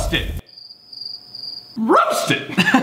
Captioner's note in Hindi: झींगुरों की आवाज़